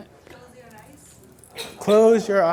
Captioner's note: voiceover